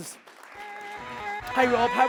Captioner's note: audience applauds; upbeat music